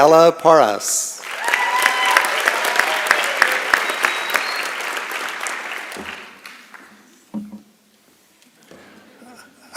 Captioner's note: applause and Cheering